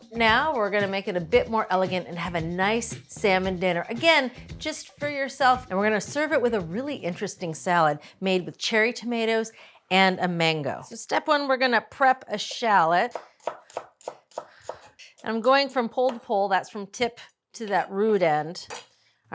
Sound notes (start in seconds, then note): 13.1 knife tapping